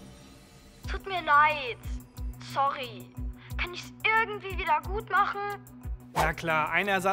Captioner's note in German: über Telefon